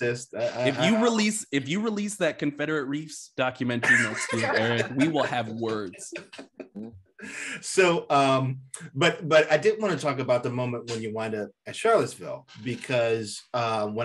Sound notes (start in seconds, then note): 3.8 laughter drowns out speaker